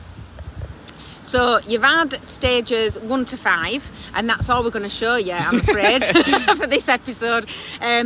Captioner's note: laughing